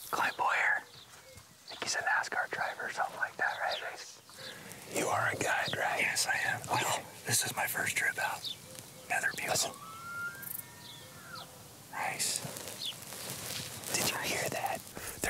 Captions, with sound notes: - Clint Bowyer, I think he's a NASCAR driver or something like that, right? Right. You are a guide, right? - Yes, I am. - Okay. - No, this is my first trip out here. - Another bugle. (elk bugling) - Listen. - Nice. - Did you hear that?